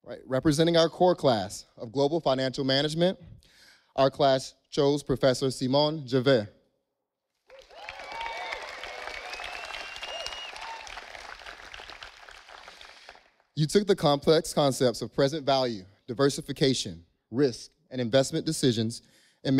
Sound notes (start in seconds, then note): 7.5 audience applauding